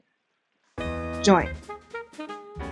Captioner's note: voiceover